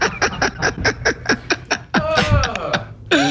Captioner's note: laugh